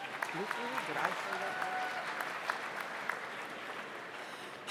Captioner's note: audience applauds